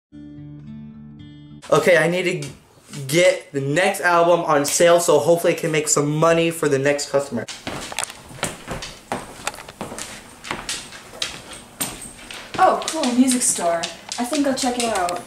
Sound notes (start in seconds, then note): 7.4 walking, shoes clicking